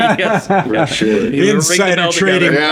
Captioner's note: laughing